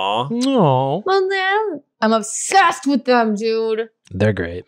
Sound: voice muffled

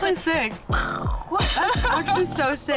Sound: makes explosion sound; laughs

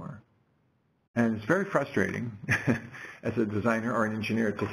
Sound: laugh

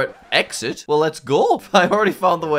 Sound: record scratches

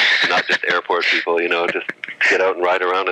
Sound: laughs

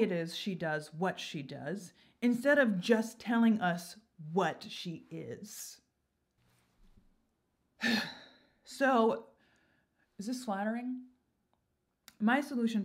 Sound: sigh

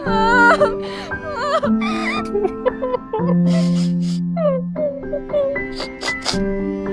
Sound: sobbing

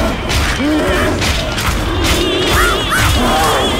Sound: growling; crow squawks

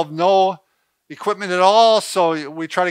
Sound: none

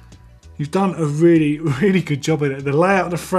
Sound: laughs

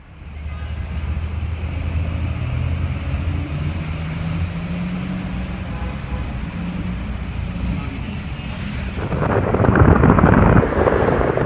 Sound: traffic sounds

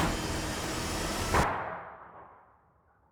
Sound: sound of a gun

